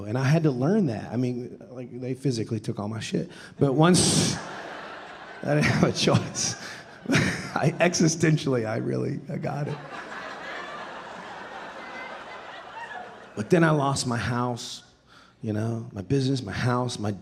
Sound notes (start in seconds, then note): 5.4 laughing; 6.7 audience laughing; 10.0 audience laughing